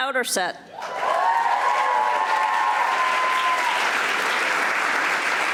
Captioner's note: audience applauding